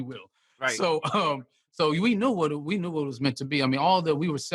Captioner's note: chuckles